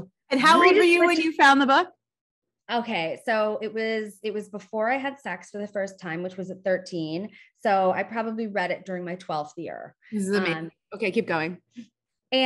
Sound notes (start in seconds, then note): none